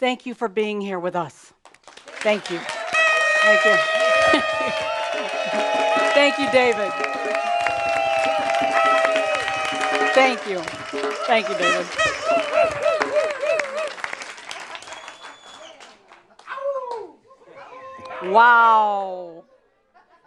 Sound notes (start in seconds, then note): 9.0 audience applause